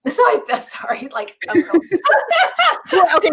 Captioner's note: laughs